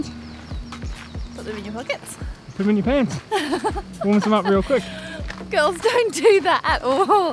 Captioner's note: laughter